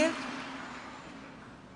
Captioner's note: applause